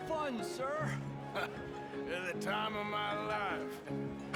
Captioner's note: laugh